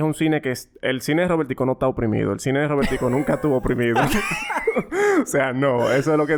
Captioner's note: laughs